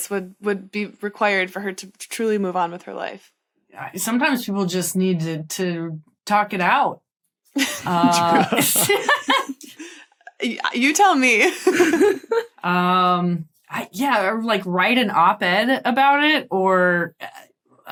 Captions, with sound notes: would be required for her to truly move on with her life. Yeah, sometimes people just need to talk it out. True. (group laughing) You tell me. Yeah, or write an op-ed about it, or...